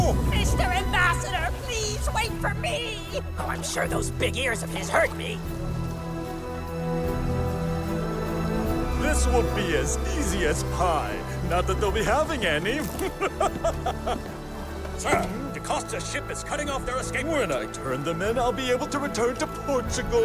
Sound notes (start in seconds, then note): 12.8 governor laughs